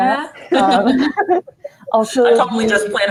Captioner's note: laughing